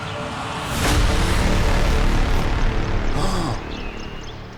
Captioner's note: braam sound effect